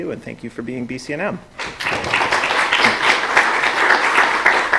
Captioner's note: applause